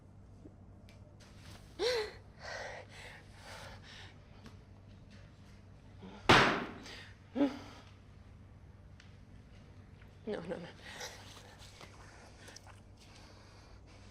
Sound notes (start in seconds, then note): 2.3 breathing heavily